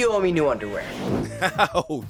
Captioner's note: laughing